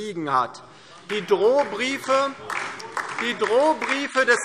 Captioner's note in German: Beifall DIE LINKE - Zuruf CDU: Das ist nicht wahr!